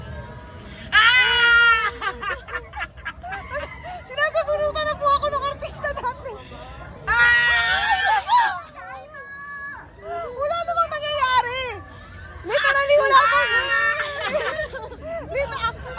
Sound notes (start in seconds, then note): 0.8 nervous screams; 5.9 laughs; 7.0 screaming, laughing, panicking